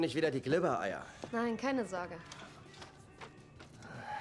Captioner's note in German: seufzt